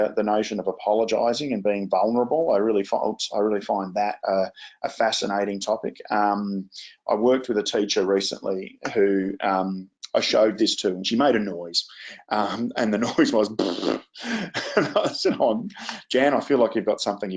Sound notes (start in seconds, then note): 13.5 imitates flatulence; 13.6 laughs